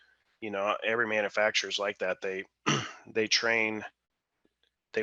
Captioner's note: clears throat